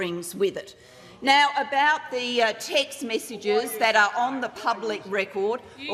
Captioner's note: opposition members interjecting